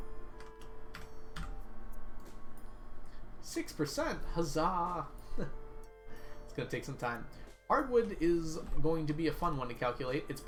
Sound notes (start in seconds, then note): 5.2 chuckles